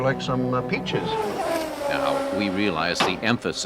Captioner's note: car zooms